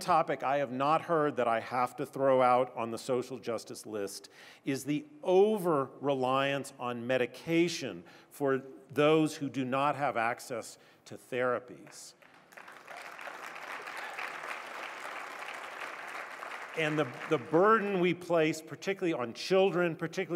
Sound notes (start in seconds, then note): 12.1 applause